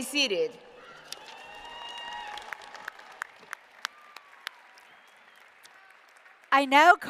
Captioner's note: applause